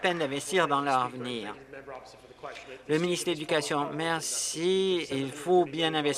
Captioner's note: some applause